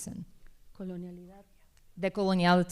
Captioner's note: speaking spanish